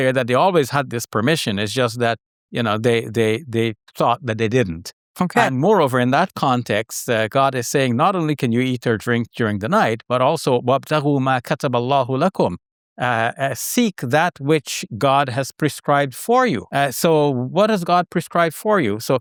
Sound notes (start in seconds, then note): 10.8 speaking Arabic